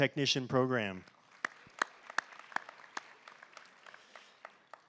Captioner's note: applause